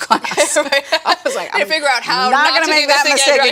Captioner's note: laughs